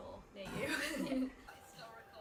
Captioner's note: TV noises